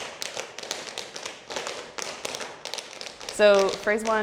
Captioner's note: tapping